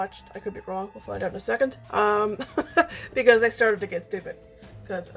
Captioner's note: laughs